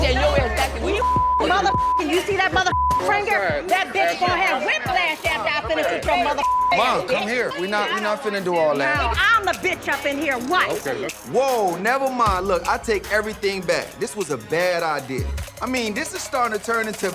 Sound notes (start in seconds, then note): 0.0 beep; 6.0 beep